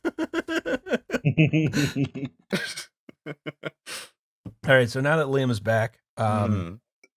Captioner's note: laughter